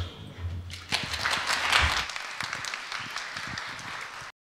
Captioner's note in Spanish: Aplausos